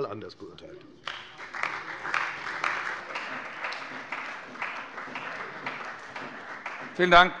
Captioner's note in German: Beifall bei der FDP und der CDU